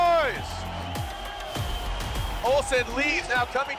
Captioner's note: crowd cheering